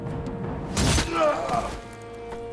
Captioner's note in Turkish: İnilti sesi